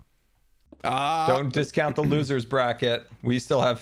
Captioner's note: scolding